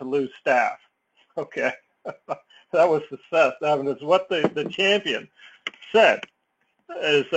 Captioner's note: laugh